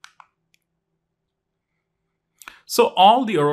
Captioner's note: remote clicking